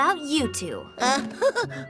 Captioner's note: chuckles nervously